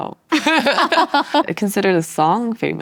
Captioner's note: both chuckle